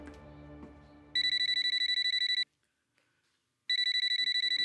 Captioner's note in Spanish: Suena el celular